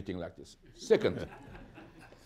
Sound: laughter

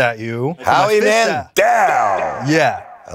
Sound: echoes

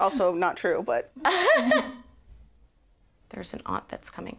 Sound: laughs

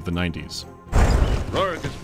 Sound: boom

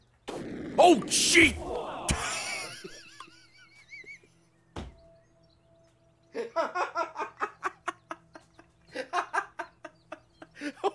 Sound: laughs

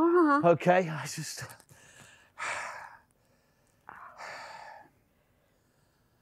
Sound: breathing heavily

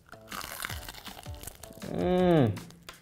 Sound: crunching loudly

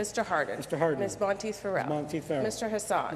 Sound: none

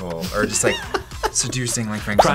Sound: React laughs

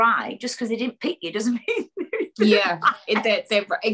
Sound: laughs

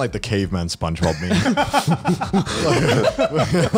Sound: laughs

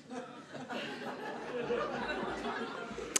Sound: laughter

